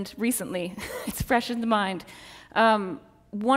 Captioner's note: laughs